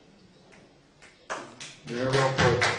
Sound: applause

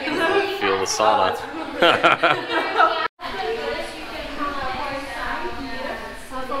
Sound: laughs

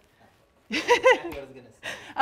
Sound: laughing

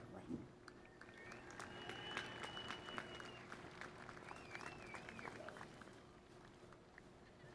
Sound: applause

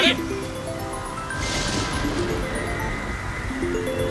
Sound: phone ringing

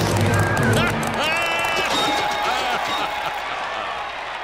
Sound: laughs

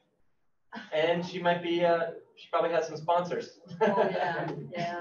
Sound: laughs

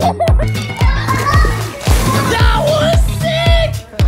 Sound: kids playing

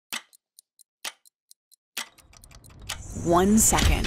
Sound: clock ticks

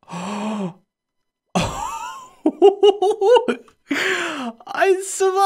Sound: gasps; laughs

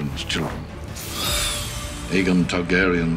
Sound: dragon shrieks

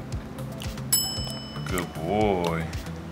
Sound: bell dings

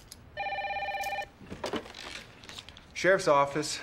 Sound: phone ringing

